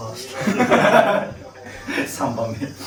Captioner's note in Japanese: 笑い